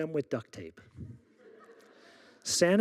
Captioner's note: audience laughing